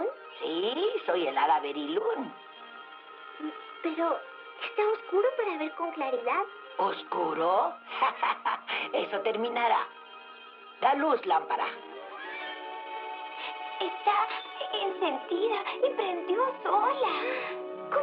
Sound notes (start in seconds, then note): 7.9 laughs